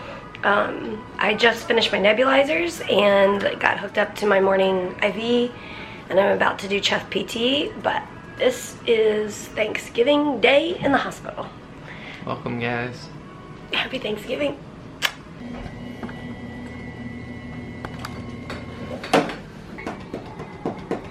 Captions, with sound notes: I just finished my nebulizers, and I got hooked up to my morning IV and I'm about to do chest PT, but this is Thanksgiving Day in the hospital! Welcome, guys. Happy Thanksgiving! (smooch)